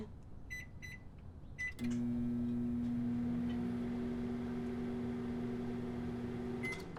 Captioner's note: microwave beeps, whirring